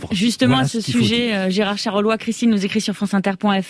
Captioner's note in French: Voix journaliste